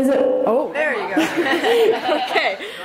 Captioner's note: audience laughs